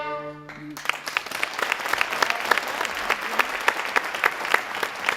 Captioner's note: audience applauding